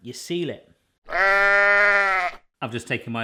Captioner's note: cow mooing